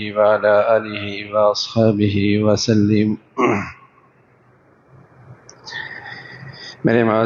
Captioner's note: clears throat